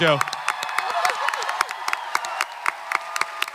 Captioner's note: panel and audience clapping, cheering